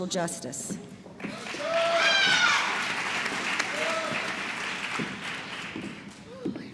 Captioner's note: applause